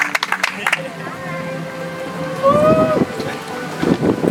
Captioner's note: audience applauds